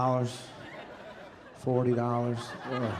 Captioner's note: audience laughing